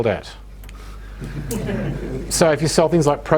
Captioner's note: audience laughing